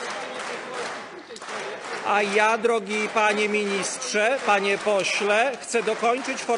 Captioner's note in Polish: Aplauz